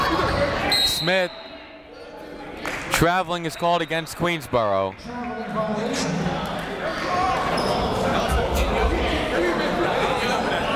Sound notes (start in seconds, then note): 0.7 whistle; 6.6 chatter